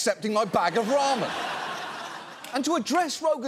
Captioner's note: audience laughs